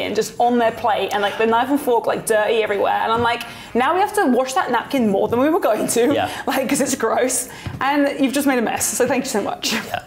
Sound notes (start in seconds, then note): 1.7 gasps